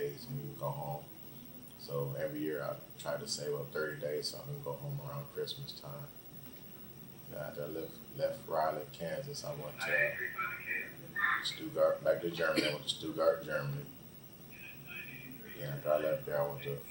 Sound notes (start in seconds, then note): 7.3 radio in background; 12.3 coughs